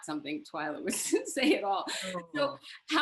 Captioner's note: chuckles